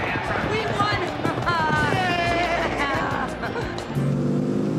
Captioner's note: laughing